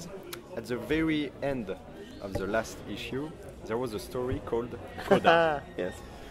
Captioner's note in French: Rire